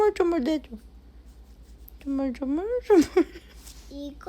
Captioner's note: rub rub